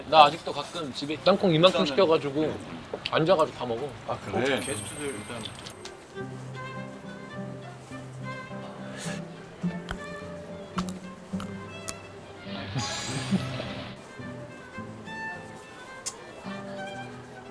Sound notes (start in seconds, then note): 9.8 crunch crunch